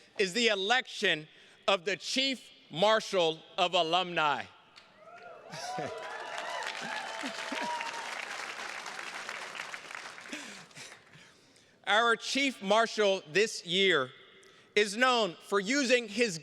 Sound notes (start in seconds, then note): 4.9 attendees cheers and claps; 5.5 chuckles